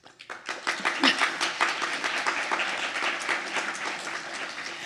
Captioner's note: audience applauding